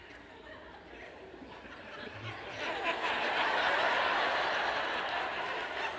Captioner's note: laughter